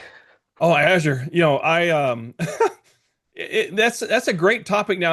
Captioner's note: laughing